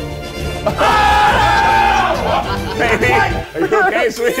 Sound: guests cheer

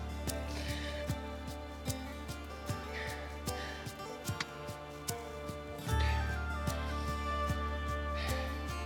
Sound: sniffling

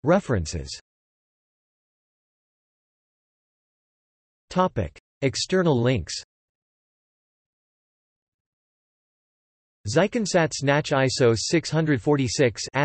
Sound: in German

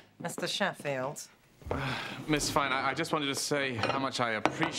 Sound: sighs

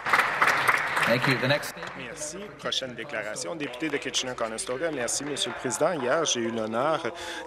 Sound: applause

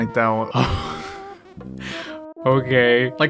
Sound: exhales, trying not to laugh

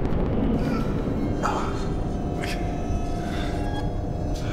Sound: grunts

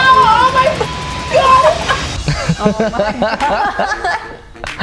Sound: beep; screams; all laugh

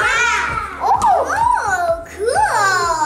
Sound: exclaiming

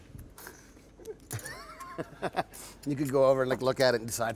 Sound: laughing

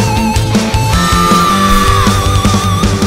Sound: scream

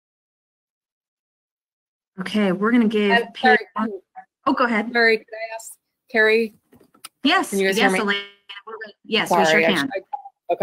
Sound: audio cutting in and out

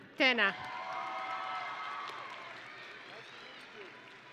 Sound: audience and graduates cheering

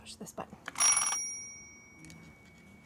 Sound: phone rings

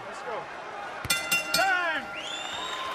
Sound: bell rings

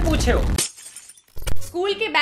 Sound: dramatic glass shatters

